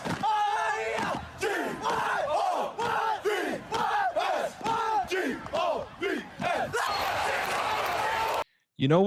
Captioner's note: screaming